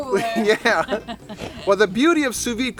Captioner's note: laughing